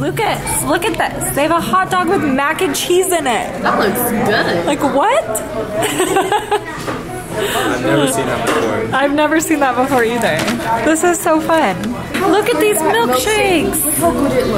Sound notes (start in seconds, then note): 5.7 laughs